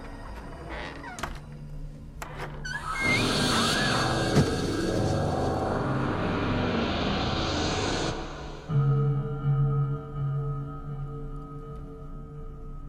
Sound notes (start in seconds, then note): 0.1 puerta cruje; 3.5 gritos; 5.8 ominosa de la música